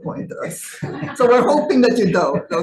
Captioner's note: audience laughing